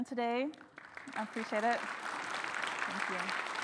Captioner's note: audience claps